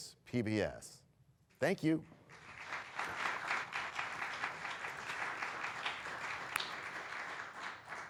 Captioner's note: applause